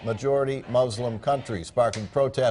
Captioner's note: chanting